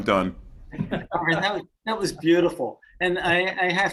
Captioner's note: participants laugh